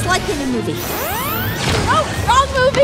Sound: laser gun beams

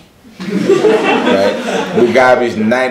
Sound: laughs

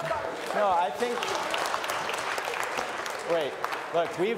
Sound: applause

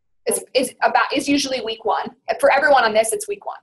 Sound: voiceover

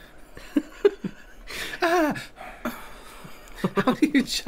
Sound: chuckled, And Then Sighed

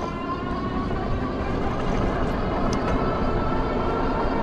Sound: motor whooshing

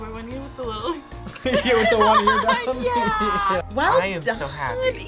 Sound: laughs

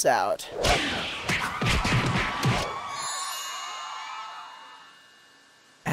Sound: crowd cheers

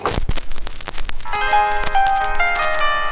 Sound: gramophone crackles; romantic piano music

